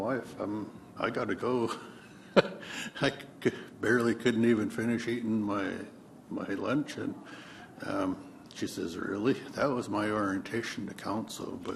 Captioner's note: laughs